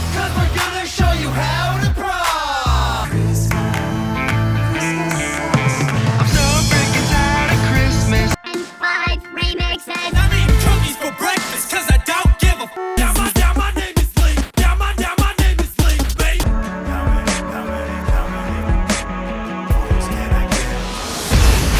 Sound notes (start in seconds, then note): 10.1 horn honk